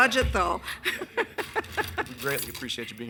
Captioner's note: all laughing